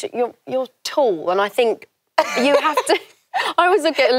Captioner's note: laughs